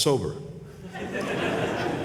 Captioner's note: laughter